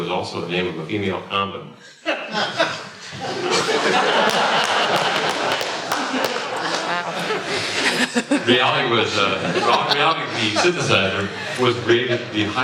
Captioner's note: laughter